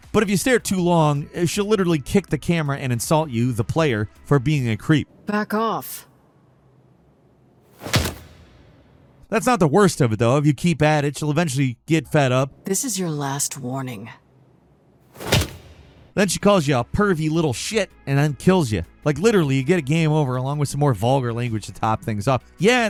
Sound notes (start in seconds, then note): 7.7 air whooshing; 15.1 air whooshing